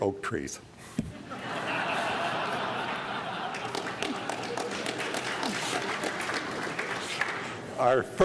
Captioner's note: laughter